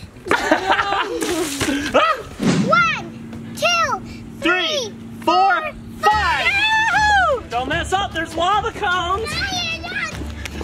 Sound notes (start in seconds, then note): 0.2 laughing; 1.7 yells; 6.0 mom yells